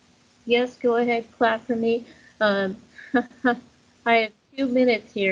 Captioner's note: chuckles